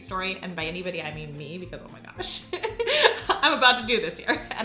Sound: laughs

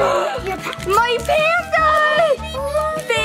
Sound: gasps

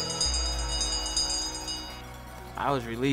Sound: bell rings

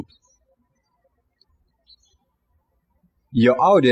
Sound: birds chirping

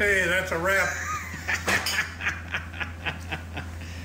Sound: laughing

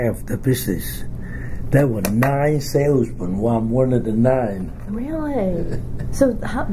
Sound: laughs

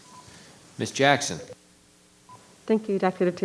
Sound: microphone beeping

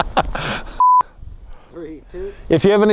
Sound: laughs; beep

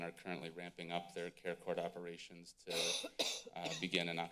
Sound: coughing in background

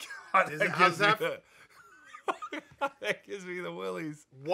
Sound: laughing

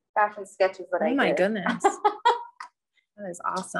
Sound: laughs

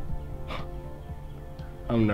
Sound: Terrence chuckles

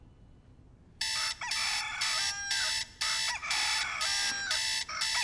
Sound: alarm ringing

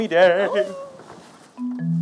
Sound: in mock excitement

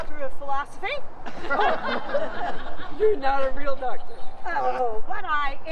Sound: laughter

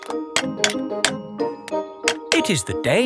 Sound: clanking

